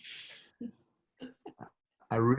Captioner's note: laughs